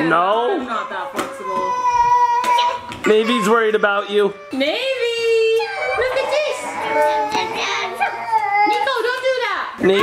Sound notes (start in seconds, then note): 7.1 crying